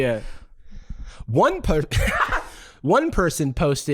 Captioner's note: laughing